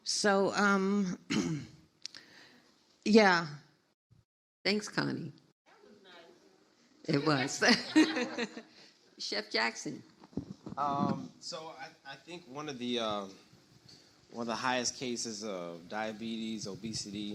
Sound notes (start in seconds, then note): 7.3 laughs; 7.4 audience laughs